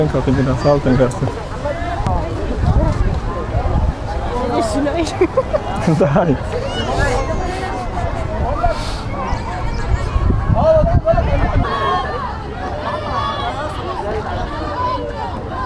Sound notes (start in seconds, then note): 4.6 haha